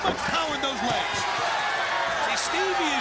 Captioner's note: crowd chatter